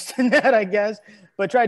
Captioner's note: laughs